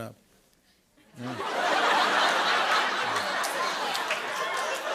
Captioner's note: laughter